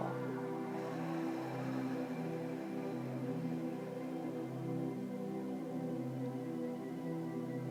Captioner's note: breathes